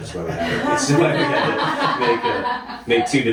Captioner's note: laughing